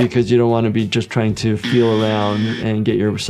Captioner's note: buzzer buzzes